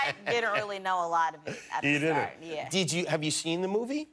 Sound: laughter

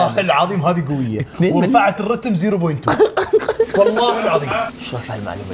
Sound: laughs

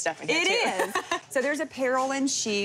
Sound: laughing

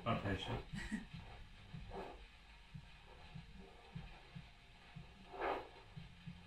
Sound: doppler machine crackling

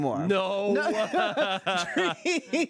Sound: everyone laughs

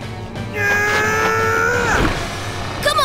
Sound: grunting

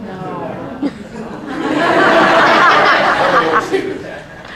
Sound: raucous laughter breaks out

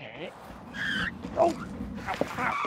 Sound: tires screeching

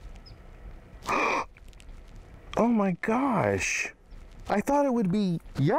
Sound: gasps

